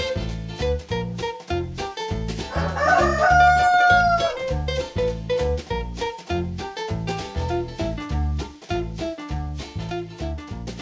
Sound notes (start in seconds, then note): 2.5 a rooster crows; 5.0 playful guitar music